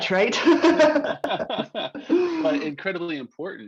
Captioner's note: laughing